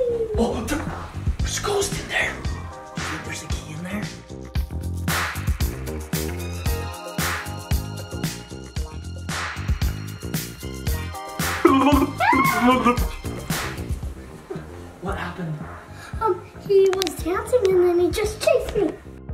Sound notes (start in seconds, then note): 2.4 disco music; 5.2 disco music continues; 11.5 ghost sounds